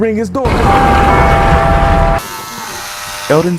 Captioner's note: doorbell rings; hair clippers buzzing